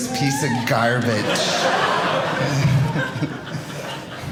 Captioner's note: audience laughing